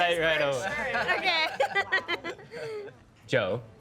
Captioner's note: laughing